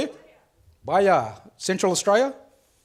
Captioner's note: speaks foreign language